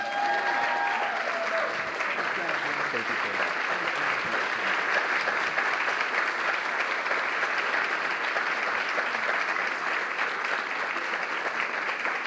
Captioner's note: applause